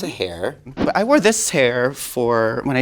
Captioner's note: air whooshing